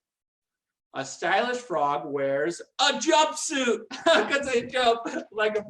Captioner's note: laughs